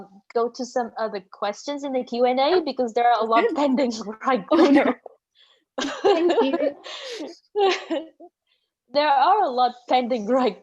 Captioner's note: laugh